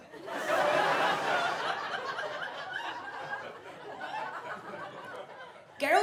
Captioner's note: audience laughs